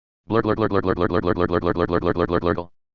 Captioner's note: barfing